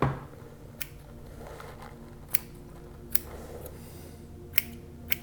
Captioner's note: scissors snipping